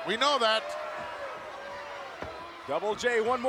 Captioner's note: crowd jeering